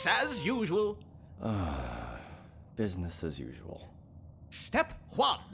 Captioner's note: UDO sighs